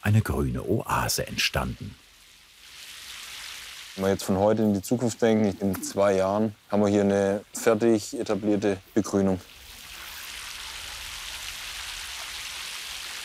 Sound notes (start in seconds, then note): 10.3 rippling